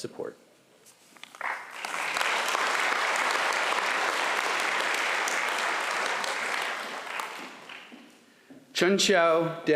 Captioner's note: applause